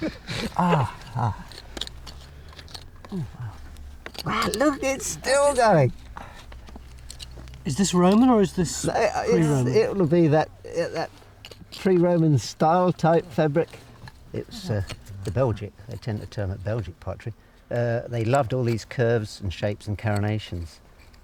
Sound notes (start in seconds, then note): 1.7 pick scrapes